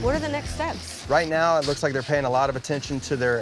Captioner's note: pat